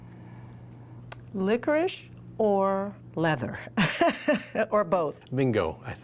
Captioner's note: laughs